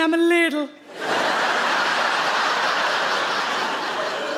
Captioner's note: audience laughs